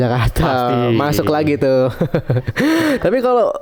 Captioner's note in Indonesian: tertawa